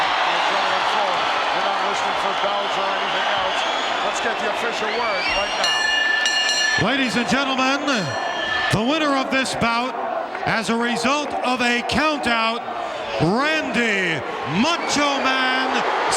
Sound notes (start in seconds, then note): 5.3 bell ringing